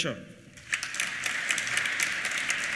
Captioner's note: applause